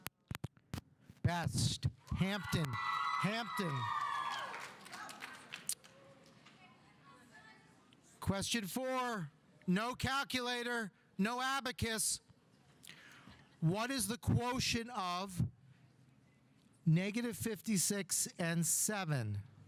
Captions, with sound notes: Best. Hampton, Hampton. (audience applauding) (audience cheering) Question four, no calculator. No abacus. What is the quotient of - 56 and seven?